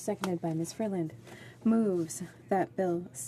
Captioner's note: speaking French